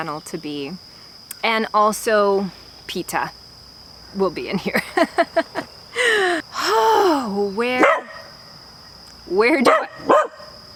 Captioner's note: barking